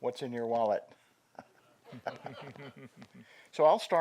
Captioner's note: laughter